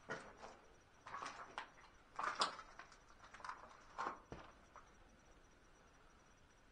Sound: footsteps

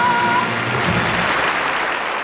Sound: audience applauding

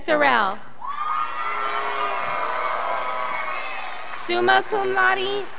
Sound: crowd applauding

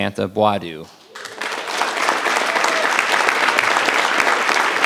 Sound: audience applause

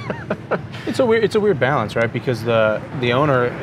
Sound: laughs

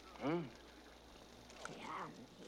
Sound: eating

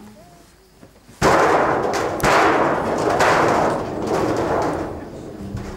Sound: crash! crash!; crash!

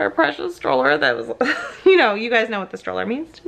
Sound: laughing

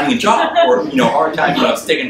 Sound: audience laughs

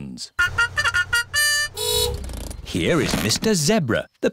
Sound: fanfare; horn honks

